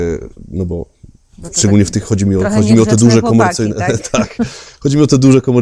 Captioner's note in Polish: śmiech